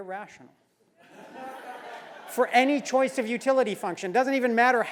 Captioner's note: laugh